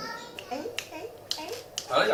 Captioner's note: fingers snapping